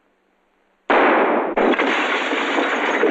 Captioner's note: gunshot